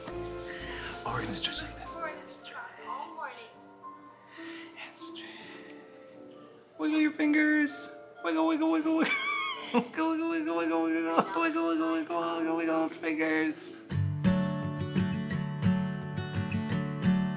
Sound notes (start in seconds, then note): 8.9 laughing; 14.0 gentle guitar music